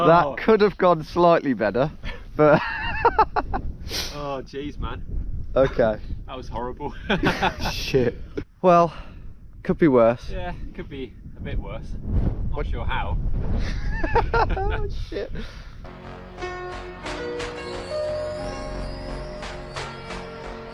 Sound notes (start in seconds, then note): 3.7 laughs; 7.0 chuckles; 13.5 wind whooshing; 13.6 both laughing; 15.8 depressing music